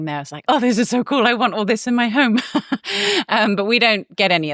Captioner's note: laughs